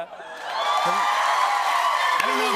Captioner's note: cheers and applause